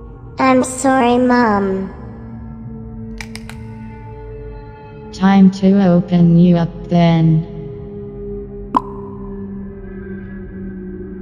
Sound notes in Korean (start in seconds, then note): 2.9 등 우두둑 거리는 소리